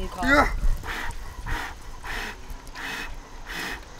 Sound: heavy breathing

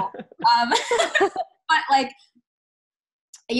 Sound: laughing

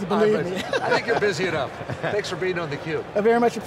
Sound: laughing

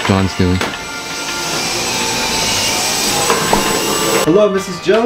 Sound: vacuum sounds

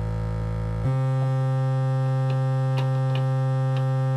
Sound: buzzing

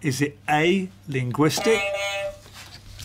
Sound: beep beep

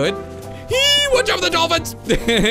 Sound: squeals

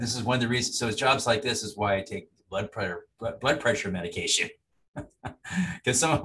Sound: laughing

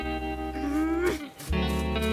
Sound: frustrated grunt

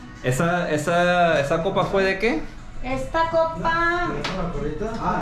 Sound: speaking in Spanish

